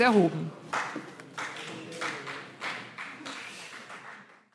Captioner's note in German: Vereinzelter Beifall CDU und BÜNDNIS 90/DIE GRÜNEN